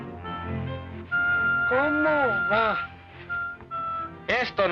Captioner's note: man speaks Spanish; Ramon speaks Spanish